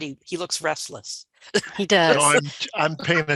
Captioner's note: chuckling